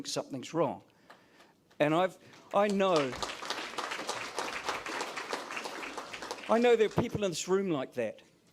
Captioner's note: applause